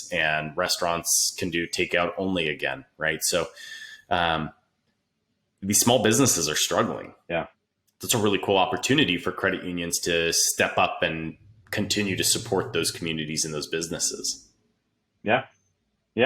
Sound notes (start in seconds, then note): none